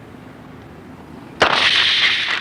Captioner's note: bicycle brake sounds